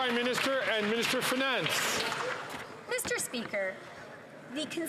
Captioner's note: some Applause